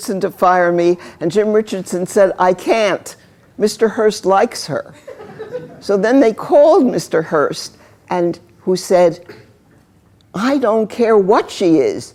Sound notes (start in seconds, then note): 4.9 laughter